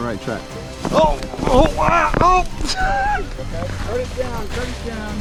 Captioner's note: laughing